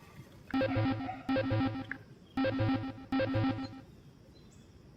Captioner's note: phone ringing